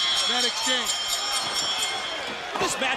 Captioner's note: bell ringing